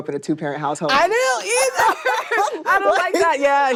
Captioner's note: laughter